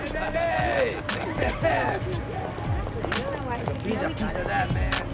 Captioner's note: overlapping chatter